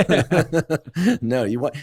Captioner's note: laughter